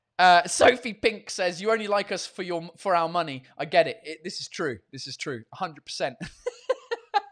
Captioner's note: laughs